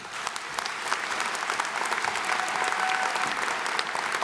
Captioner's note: applause